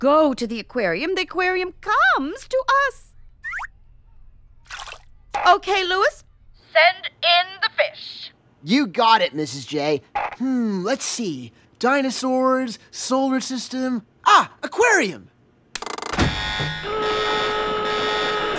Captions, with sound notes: THE AQUARIUM COMES TO US! OKAY, LOUIS, SEND IN THE FISH! YOU GOT IT, MRS. J. HMM... LET'S SEE. DINOSAURS... SOLAR SYSTEM... AH! AQUARIUM! (A LOUD BUZZER BLARES)